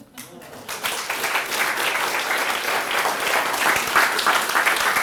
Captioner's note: audience clapping